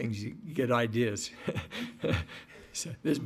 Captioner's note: laughing